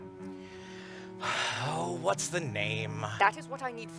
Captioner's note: sighs